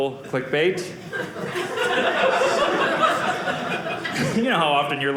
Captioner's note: audience laughing